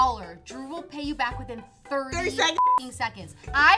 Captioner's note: beep